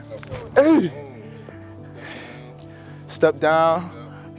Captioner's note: grunts loudly